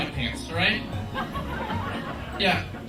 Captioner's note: crowd laughing